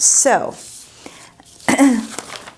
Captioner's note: clearing throat